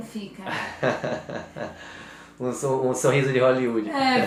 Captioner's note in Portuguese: risos